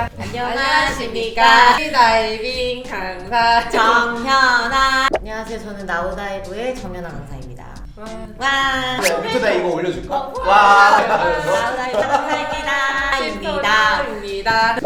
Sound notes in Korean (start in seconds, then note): 10.3 사람들 환호하는거